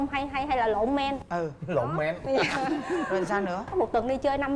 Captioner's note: laughing